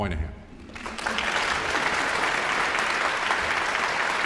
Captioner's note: audience applauds